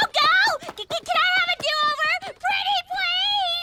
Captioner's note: laughing